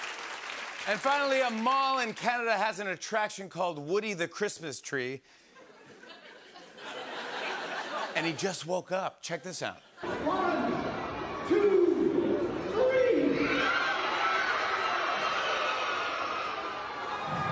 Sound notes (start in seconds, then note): 5.6 laughter; 13.0 cheering